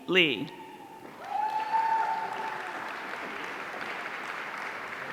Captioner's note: audience cheering